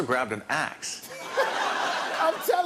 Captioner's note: laughter